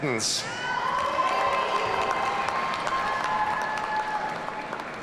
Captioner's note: audience cheering